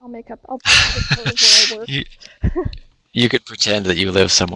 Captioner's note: both laughing